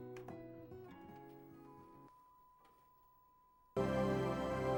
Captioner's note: tv sound